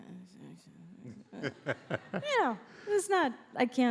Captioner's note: laughs